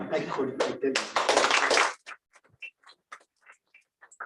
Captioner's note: applause